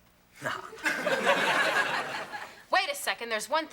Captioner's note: Gorge laughing